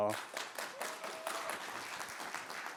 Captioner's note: applause